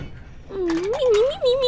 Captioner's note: laughter and dice clunks!